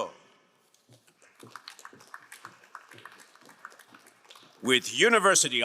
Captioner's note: crowd cheering and applauding